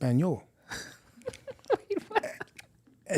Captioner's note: laughing